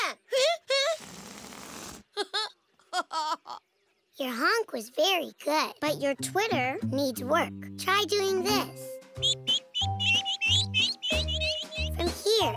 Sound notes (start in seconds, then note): 2.2 giggling; 7.2 twittering